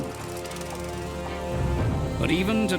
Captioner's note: motor rumbling